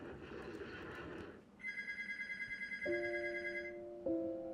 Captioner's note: gunfire; phone ringing; calm, ruminative music